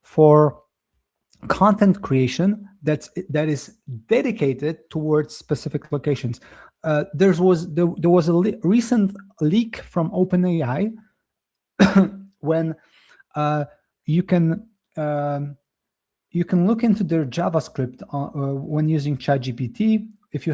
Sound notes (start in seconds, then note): 11.8 coughs